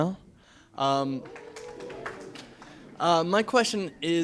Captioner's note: a scattering of muted "woo hoo" cheers